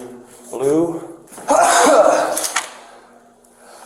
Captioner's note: sneezes